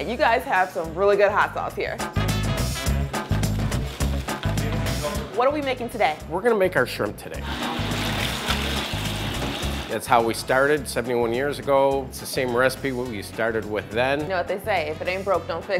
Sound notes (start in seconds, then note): 3.2 bag rustles; 7.4 water splashes